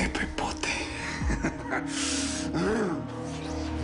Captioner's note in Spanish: Ríe